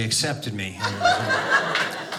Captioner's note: audience laughing